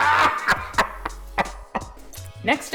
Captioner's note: hysterical laughter